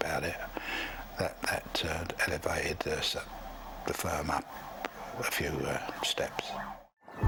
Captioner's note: police Sirens